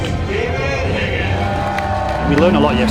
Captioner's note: crowd cheering